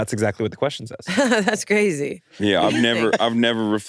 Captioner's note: laughs